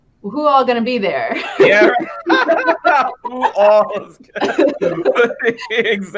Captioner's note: laughing